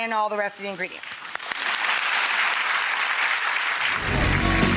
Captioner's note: clapping